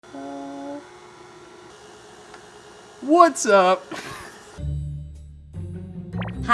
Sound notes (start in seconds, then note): 3.9 chuckling; 4.6 playful music